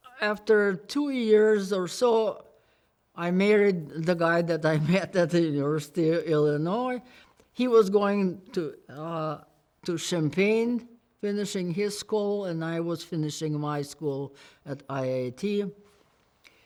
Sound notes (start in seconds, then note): none